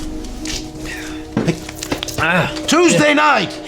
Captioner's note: grunts